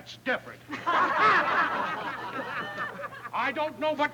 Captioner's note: all laughing